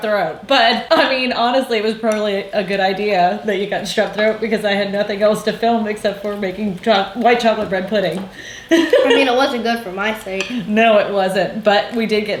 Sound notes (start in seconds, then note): 8.3 laughing